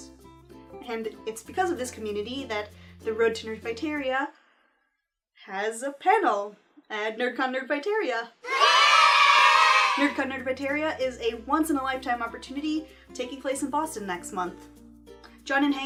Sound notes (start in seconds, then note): 8.5 children's voices